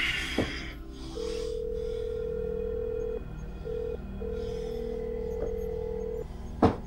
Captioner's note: phone call tone